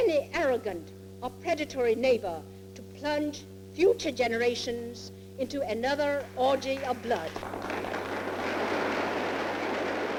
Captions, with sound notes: or predatory neighbor to plunge future generations into another orgy of blood. (Congress members applaud)